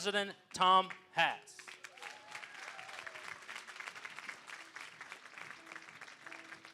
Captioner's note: applause